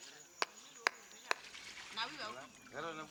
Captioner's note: chattering